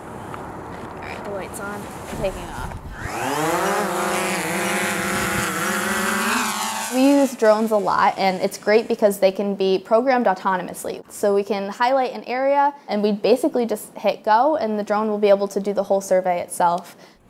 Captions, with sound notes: [Drone propellers activating] We use drones a lot and it's great because they can be programmed autonomously so we can highlight an area and we basically just hit go and the drone will be able to do the whole survey itself.